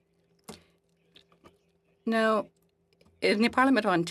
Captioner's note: speaking French